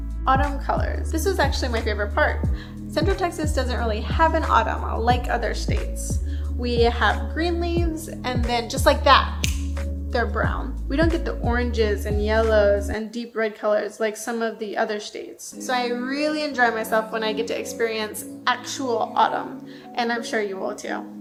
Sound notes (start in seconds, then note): 9.4 snaps